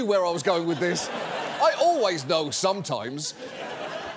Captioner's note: audience laughs